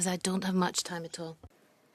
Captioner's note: speaking in French